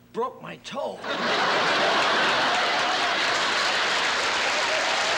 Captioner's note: laughter